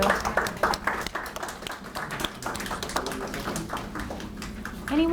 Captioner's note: audience applauds